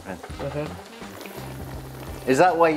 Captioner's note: slurps